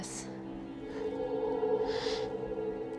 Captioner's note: gasps